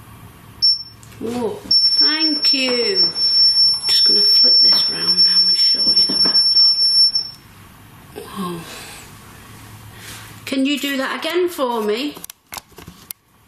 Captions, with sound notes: (metre beeps) Whoa, thank you. Just gonna flip this around now and show you the Rampart. Whoa. Can you do that again for me?